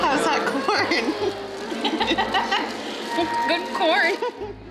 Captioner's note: laughs; more laughing; laughs